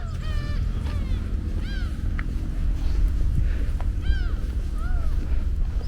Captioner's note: birds chirping